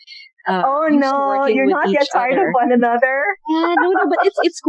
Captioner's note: laughter